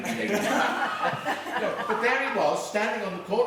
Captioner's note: laughing